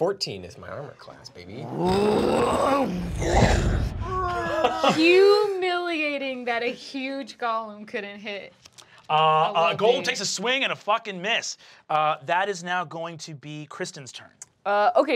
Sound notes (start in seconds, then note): 1.5 roaring